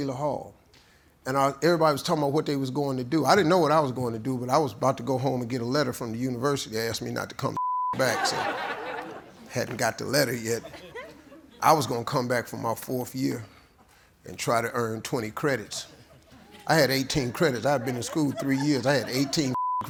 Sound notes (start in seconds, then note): 10.4 laughter